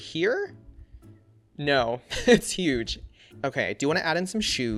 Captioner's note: laughs